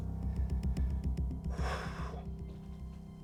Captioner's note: sighs